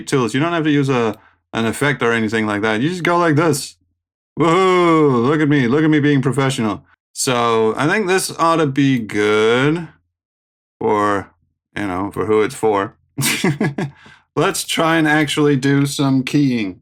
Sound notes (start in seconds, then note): 13.2 derisive chuckling